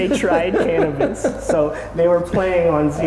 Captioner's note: laughing